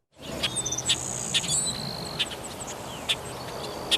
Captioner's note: birds chirping